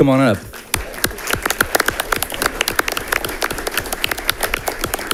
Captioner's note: audience clapping